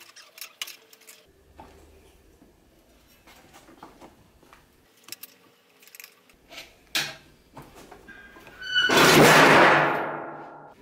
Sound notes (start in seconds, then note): 8.8 something crashed